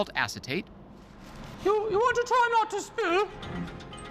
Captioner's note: imitating Julia Child